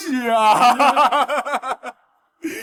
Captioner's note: mocking laugh